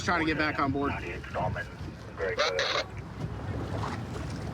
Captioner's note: radio communication